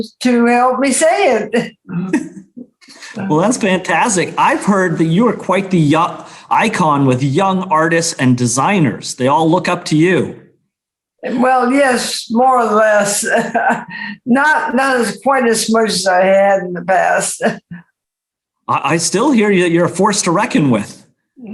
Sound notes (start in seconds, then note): 1.9 chuckles; 13.2 laughs; 17.8 chuckles